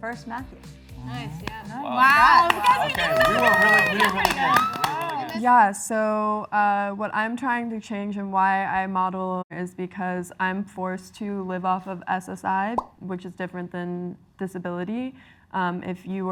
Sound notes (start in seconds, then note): 1.8 all cheer and applaud